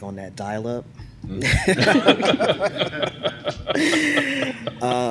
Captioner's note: laughter